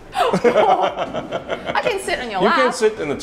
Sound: laughing

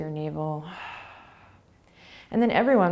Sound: exhaling

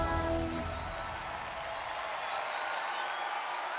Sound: cheering loudly

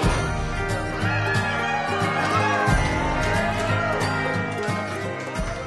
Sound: people cheering

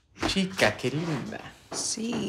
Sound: Tyler speaks Spanish

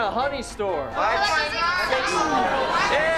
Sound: overlapping chatter

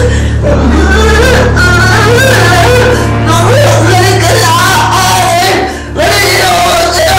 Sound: wailing

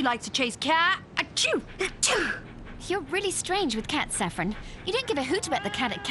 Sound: sneezes

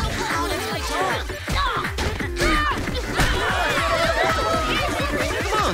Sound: yelling

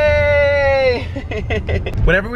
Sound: laughs

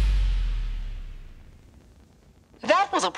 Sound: silence

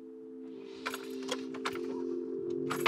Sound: ingnition turns on

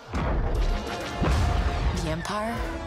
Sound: star wars lasers blasting

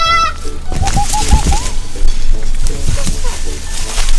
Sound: Peppa lauging

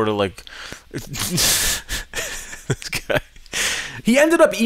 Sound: laughs

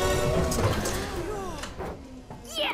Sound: sighs of relief

